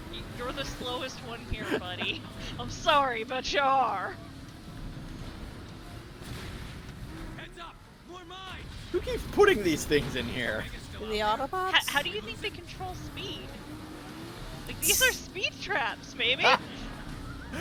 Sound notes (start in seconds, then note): 1.4 laughs; 15.6 laughs